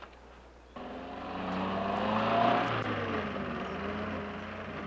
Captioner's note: jeep rumbling